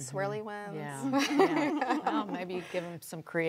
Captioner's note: laughs